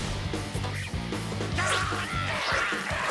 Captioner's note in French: les créatures hurlent